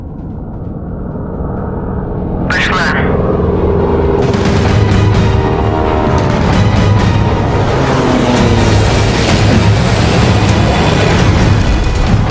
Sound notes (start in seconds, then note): 1.6 in radio noises